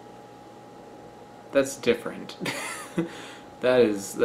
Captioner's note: laughs